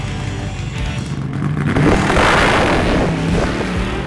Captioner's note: engine idling; engine revving; engine blaring